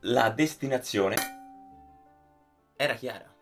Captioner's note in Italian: ding